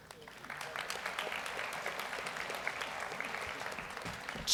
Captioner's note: audience applauds